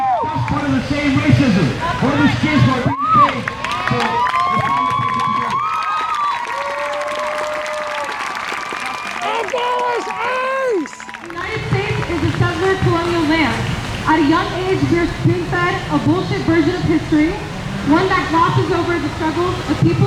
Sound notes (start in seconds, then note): 5.2 crowd cheers; 9.2 crowd